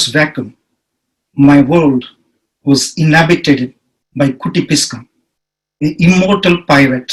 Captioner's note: speaks in foreign language